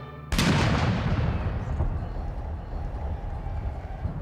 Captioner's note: cannon firing